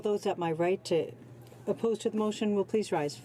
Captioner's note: speaking French